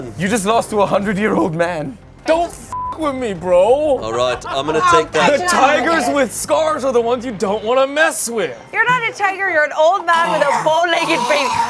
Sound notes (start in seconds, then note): 2.7 beep